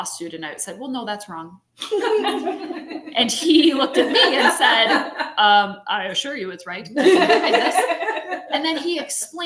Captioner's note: laughter